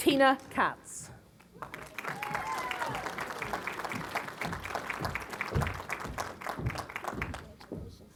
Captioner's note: applause